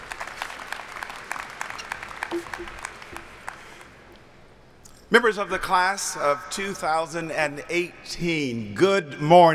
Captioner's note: applauding